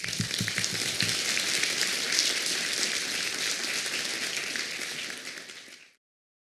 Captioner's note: applause